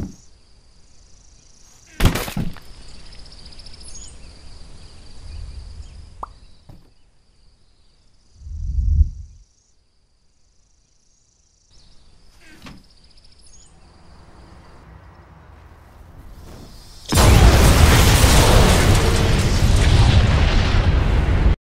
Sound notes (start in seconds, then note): 0.0 birds tweeting; 1.8 loud CRUNCH; 2.7 tweeting continues; 6.2 pop sound; 16.7 loud Explosion